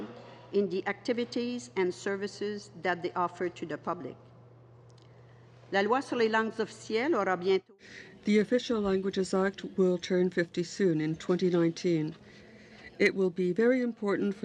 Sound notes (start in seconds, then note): 10.7 speaking in French